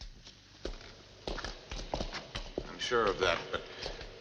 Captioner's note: footsteps